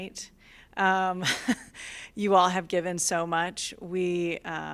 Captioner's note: laughter